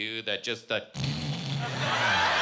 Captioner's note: snoring